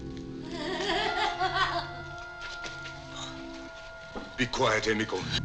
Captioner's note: maniacal laughing